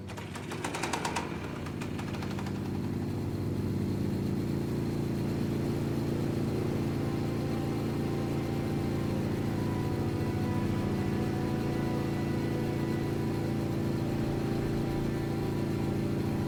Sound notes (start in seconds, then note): 1.5 engine humming; 1.5 slow music